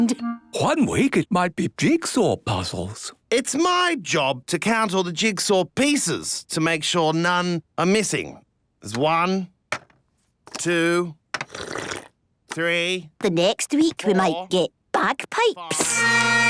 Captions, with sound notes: - One week, it might be jigsaw puzzles. - It's my job to count all the jigsaw pieces to make sure none are missing. There's one... two... (slurping) ...three... - The next week, we might get bagpipes. (dissonant music)